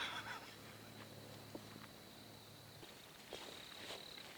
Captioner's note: footsteps